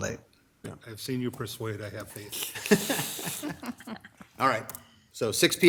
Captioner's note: laughs